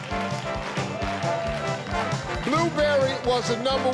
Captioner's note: theme music; crowd clapping on beat